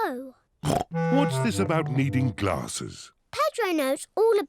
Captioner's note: snorts